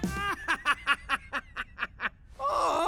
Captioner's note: Rex laughing